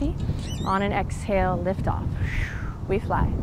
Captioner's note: blows out breath